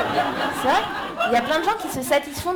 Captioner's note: laughter